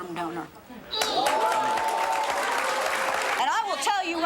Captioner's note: audience applauds